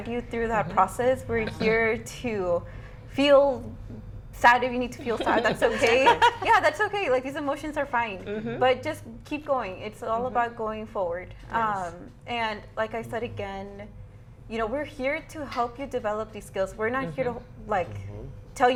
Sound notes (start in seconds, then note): 5.0 all laugh